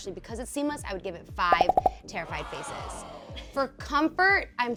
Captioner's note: popping; wowing